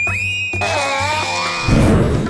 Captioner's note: screams; whoosh